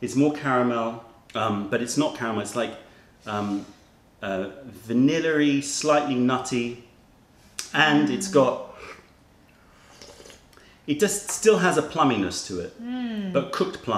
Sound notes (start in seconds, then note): 9.5 sips tea